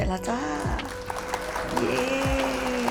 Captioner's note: audience clapping